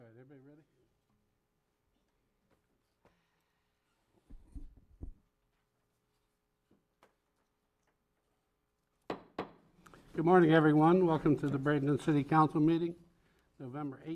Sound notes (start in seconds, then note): 9.5 gavel bangs